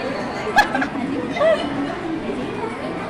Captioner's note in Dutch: lacht